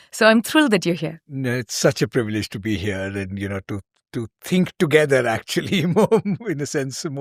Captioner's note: chuckles